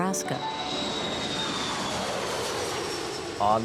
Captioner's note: jet plane taking off